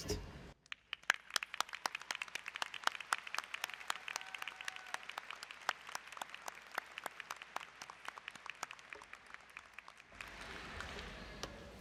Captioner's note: applause & Cheering